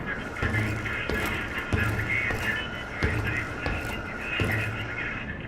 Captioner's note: footsteps thumping